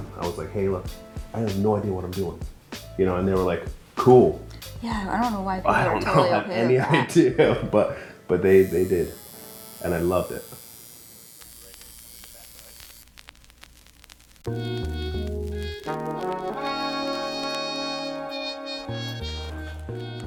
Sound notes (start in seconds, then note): 11.6 needle buzzing; 14.4 mellow jazz music